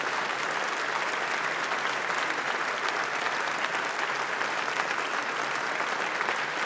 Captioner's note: applause